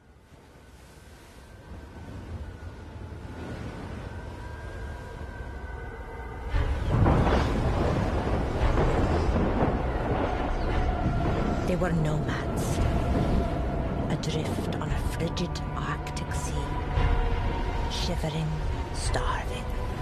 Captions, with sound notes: (Wind gusting) (Thunder rumbling) There were nomads. Adrift on a frigid arctic sea. Shivering... starving...